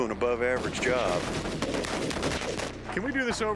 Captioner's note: rapid gunfire